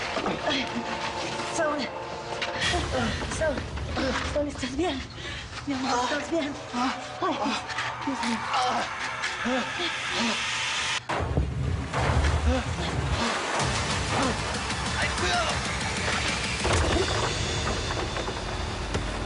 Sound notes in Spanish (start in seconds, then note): 0.2 Quejidos de Saúl; 8.0 Quejidos; 9.2 Grito; 11.4 Quejidos; 12.5 Estruendo; 17.7 Estruendo al caer